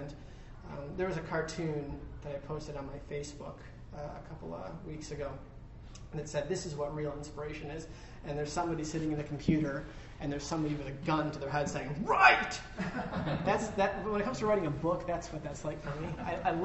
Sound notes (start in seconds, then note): 12.7 laughter